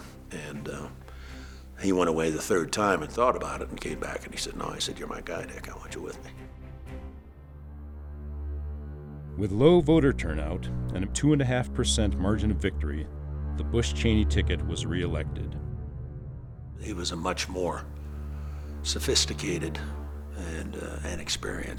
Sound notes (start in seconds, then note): 7.5 gloomy music; 9.3 voiceover